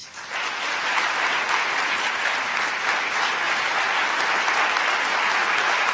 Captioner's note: applause